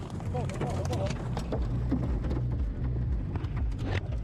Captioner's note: man speaking in foreign language; debris crashing